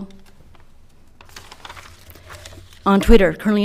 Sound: paper rustling

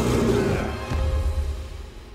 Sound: boof

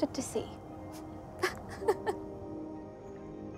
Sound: laughs

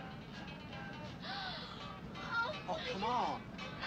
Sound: Sally gasps

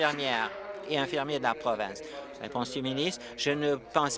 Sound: applause

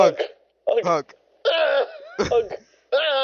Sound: hurt noise; confused orgasm noise

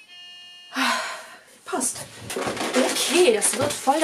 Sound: sigh

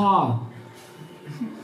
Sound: laughter

